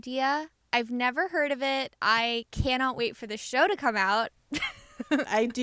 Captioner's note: laughter